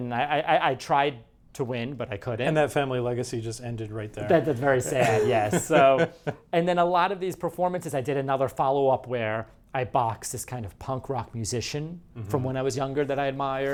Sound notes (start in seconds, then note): 4.3 laughs